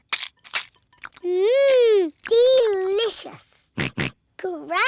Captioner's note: george oinks